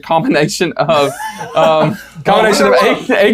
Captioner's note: laughs